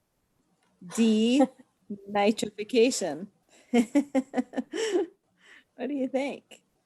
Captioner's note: laughs